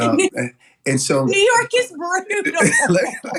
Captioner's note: laugh